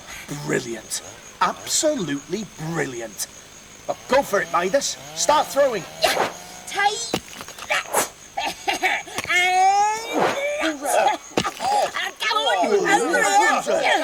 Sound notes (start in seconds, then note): 7.0 Sound of Midas throwing rocks at the loggers; 13.0 Sound of a kerfuffle, as Midas distracts the loggers